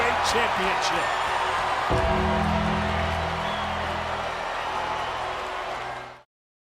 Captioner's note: upbeat music; crowd cheering